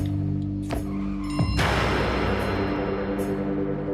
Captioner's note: loud crash